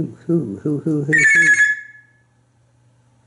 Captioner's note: telephone sound